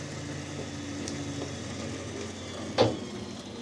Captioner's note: trailer whirring